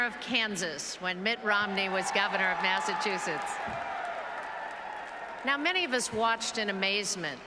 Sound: applause and Cheers

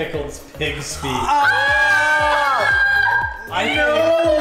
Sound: all yelling

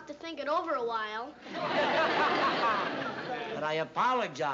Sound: laughter

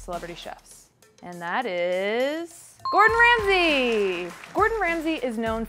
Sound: crowd clapping

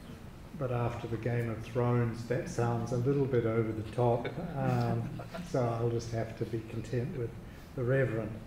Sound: audience chuckling

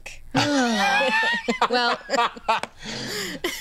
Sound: laughs

